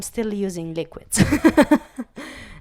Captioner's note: laugh